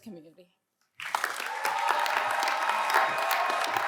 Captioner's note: cheers and applause